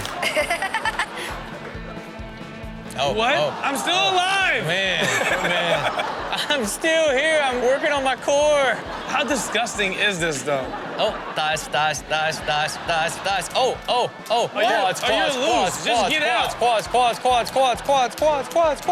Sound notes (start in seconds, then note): 0.0 laughs; 5.0 crowd laughs; 8.6 all laugh